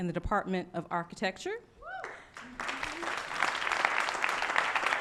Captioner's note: cheering and applause